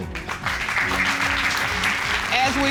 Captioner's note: applause